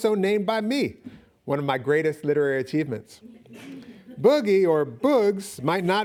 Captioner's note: audience laughing